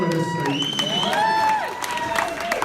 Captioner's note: applause